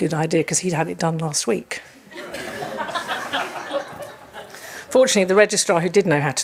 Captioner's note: audience laughs